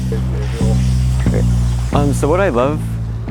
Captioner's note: hose spraying